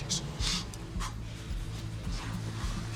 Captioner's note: Lukas exhales sharply